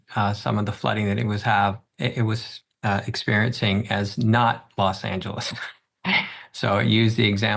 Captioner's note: laughs